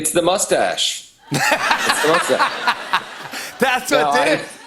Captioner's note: laughter